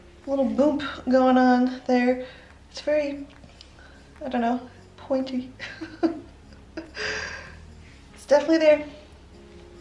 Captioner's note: chuckle